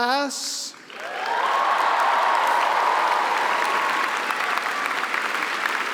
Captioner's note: applause; cheering